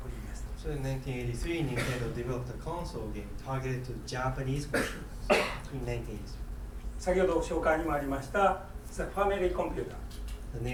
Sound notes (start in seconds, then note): 1.7 coughing; 5.3 coughing; 7.2 speaking in foreign language